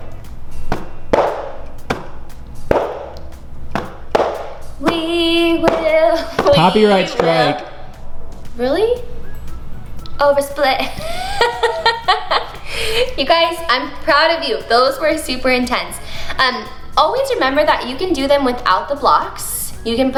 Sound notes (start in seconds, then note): 10.8 laughs